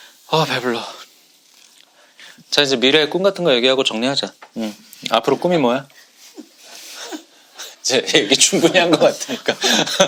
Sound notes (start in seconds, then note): 6.4 laughing at his own closing comment